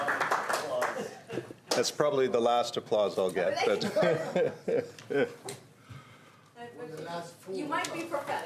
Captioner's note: applause